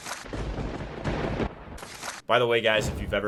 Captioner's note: lightning strikes